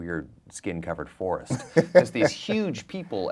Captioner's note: laughing